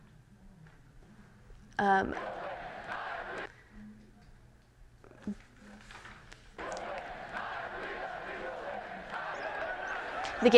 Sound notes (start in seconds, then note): 2.1 chanting; 6.5 chanting and cheering